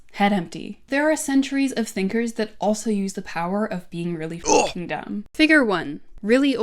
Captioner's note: grunt